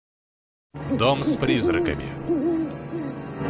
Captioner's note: owl hooting